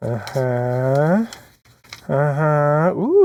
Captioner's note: grunts